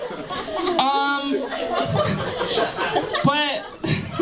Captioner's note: laughter